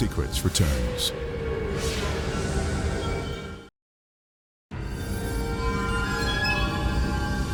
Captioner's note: graphics whooshing; mysterious music